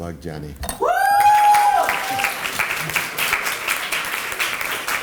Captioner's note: applause